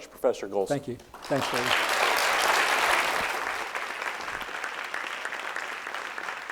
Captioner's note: audience applauding